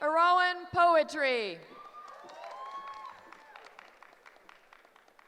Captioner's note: cheering